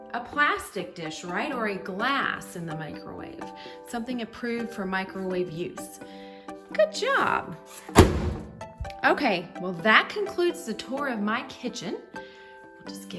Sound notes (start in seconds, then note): 7.9 door thudding